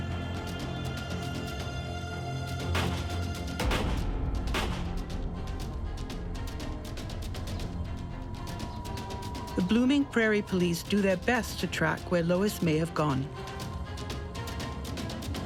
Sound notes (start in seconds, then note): 2.8 gun fires